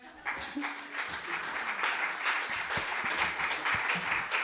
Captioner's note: applause